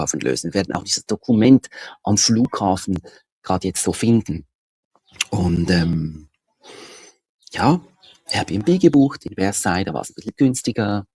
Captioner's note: snort